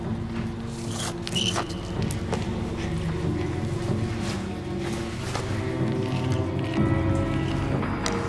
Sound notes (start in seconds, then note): 0.8 chalk screeching